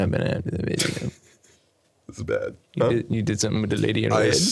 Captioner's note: laughing